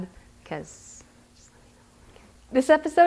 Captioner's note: whispering